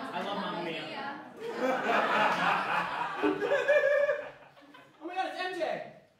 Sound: laughter

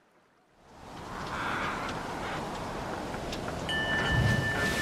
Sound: waves crashing; bell dinging

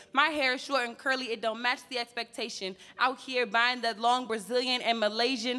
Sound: none

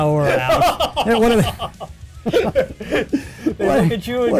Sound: laughing

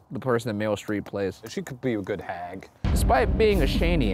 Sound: none

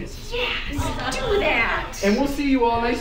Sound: students awing

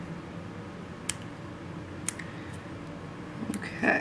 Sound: clipping sounds

